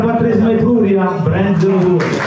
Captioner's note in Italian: Applauso